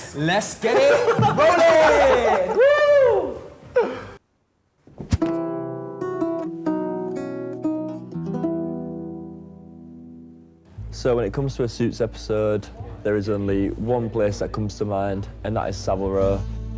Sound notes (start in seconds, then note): 3.5 group laughs; 5.3 guitar music